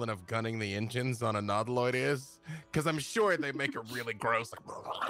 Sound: phlegm sounds

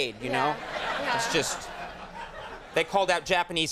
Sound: audience laughing

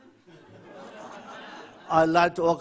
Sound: audience laughs

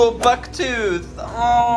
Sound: swoosh

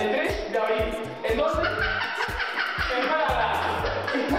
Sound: laughts

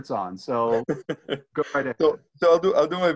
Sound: laughing

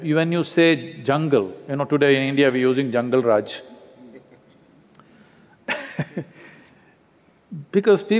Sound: laughs

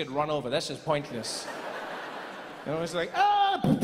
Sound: laughing continues

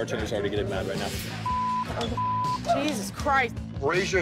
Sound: beep

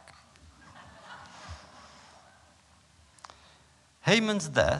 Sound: laughter

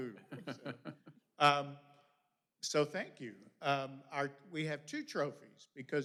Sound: laughter

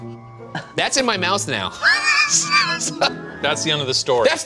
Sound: laughing

